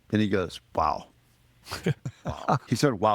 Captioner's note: laughing